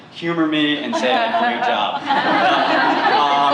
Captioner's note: laughter